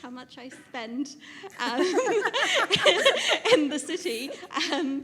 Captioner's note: laughs